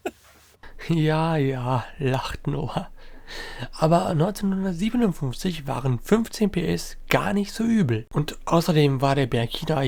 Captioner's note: laughter